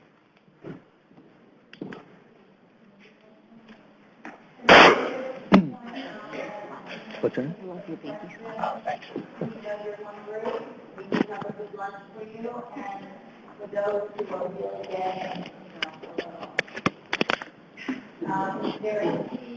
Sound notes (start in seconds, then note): 6.8 audience murmurs